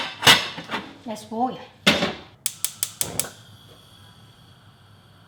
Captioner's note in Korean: 가스레인지 소리